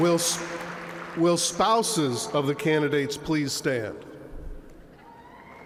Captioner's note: applause